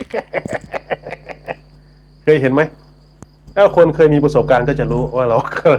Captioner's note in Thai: เสียงหัวเราะ